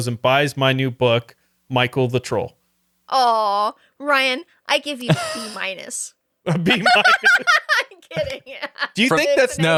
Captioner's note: laughing